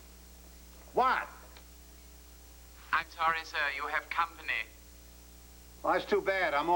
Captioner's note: intercom buzzes